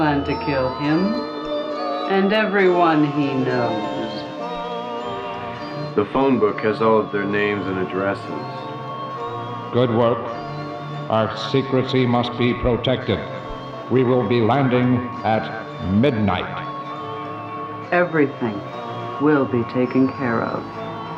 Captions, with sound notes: We plan to kill him and everyone he knows. - The phone book has all of their names and addresses. - [Robotic Voice] Good work, our secrecy must be protected. We will be landing at midnight. - Everything will be taken care of.